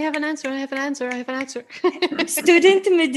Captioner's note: laughs